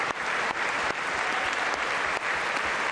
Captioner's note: applause